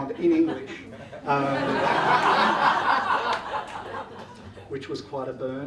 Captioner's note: audience laughs